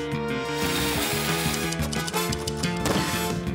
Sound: typewriter clacks

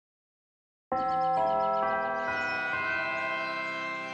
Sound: bells chime

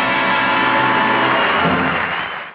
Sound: audience cheering

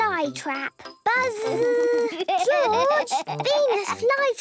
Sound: George laughing

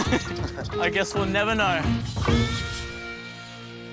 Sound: chuckles

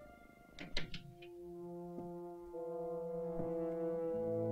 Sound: door softly clicks

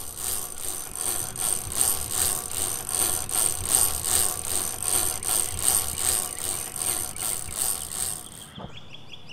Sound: chain cranking

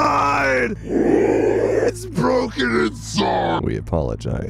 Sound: distortion

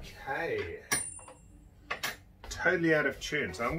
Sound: tuning fork pings

